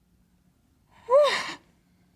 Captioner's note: sobbing